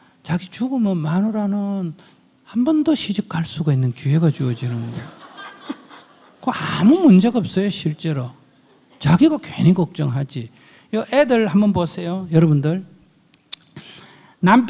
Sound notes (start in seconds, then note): 4.6 audience laughs